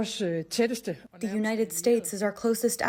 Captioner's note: through translator